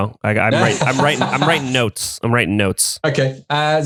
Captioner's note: laughs